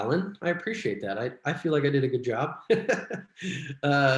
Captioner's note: laughs